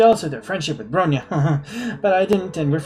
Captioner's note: laughs nervously